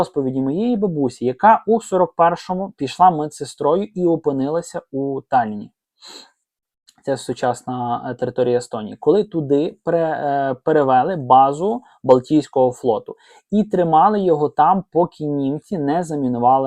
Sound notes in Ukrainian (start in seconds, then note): 6.0 сопіння